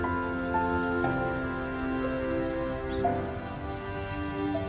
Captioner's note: birds singing